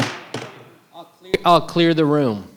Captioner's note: gavel bangs